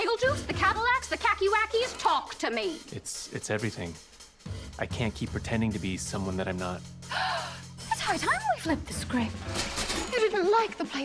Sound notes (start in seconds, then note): 5.9 mar-14 gasps